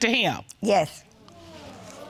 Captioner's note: audience sighing